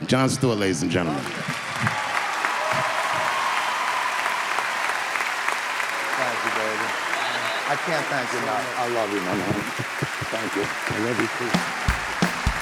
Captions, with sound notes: Jon Stewart, ladies and gentlemen. (audience clapping) - Thank you baby. I can't thank you enough. - I love you man. - Thank you - I love you.